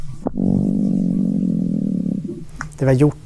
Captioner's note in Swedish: brummande ljud